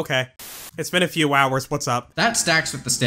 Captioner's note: static